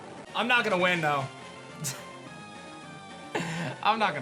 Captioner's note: chuckles